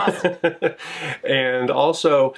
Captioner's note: chuckling